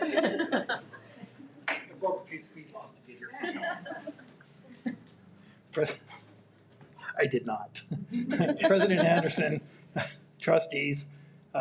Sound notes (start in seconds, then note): 0.0 members giggle; 2.2 mumbles